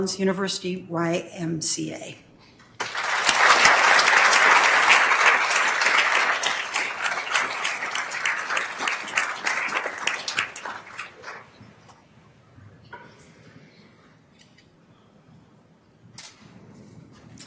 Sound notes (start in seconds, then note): 2.8 attendees applauding